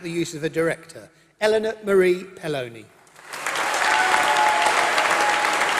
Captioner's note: applause